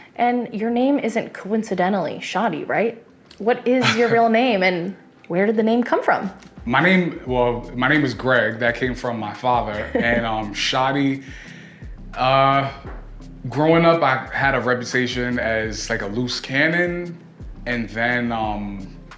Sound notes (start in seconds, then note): 3.8 laughs; 9.7 laughs